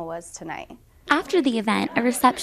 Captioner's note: background talking